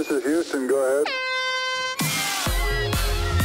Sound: horn blares; upbeat techno music

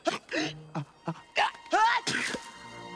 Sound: exhales; gasping; sneezing

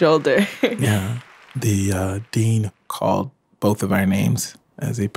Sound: laughs

